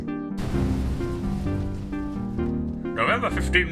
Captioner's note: explosion